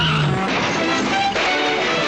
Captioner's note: car crashes